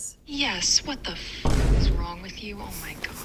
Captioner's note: boom